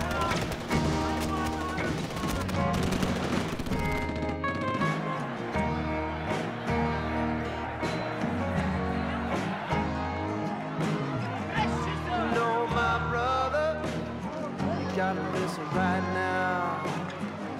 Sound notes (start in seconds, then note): 0.0 rapid gunshots popping; 5.9 crowd grumbling